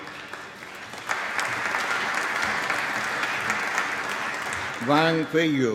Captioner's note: applause